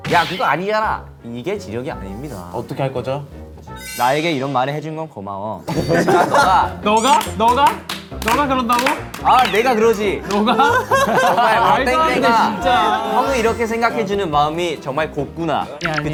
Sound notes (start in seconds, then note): 7.1 formal tone earns enthusiastic applause